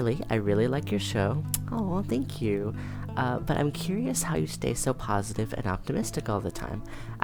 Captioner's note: tsks